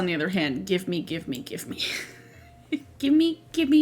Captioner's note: laughs